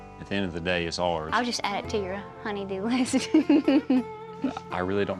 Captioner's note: chuckles